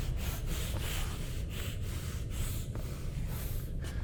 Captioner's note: hyperventilating